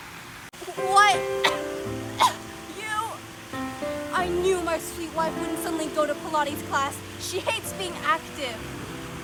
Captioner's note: choking